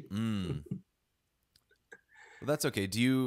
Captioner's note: chuckles